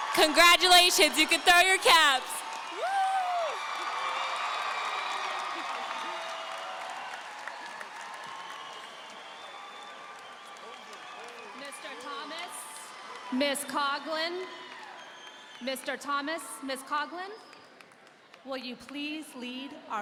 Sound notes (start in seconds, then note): 0.0 audience cheering; 4.2 audience applauding